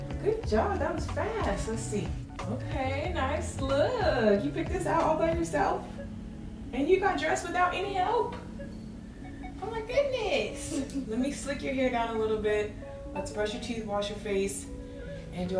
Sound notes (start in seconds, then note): 10.5 laughs